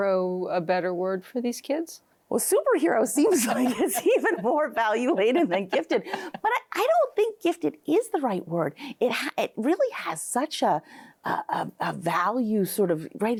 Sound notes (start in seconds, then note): 5.3 both laughing